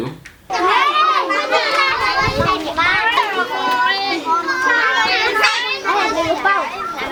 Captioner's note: yelling